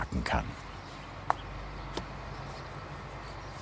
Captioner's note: traffic noises